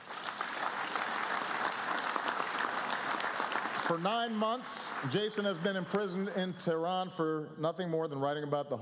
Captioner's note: applause